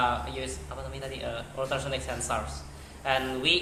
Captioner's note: non-english speech